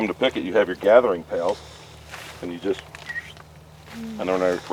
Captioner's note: whistles